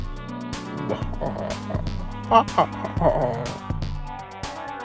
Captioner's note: evil laughs